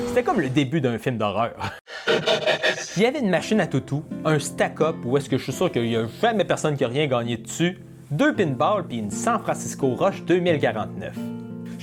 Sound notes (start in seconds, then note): 1.7 demonic laugh